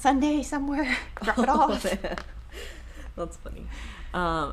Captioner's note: chuckling